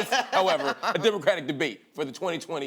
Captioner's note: laughter